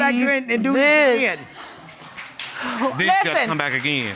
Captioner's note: audience applauds